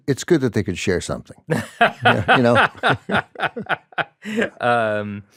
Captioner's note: laughs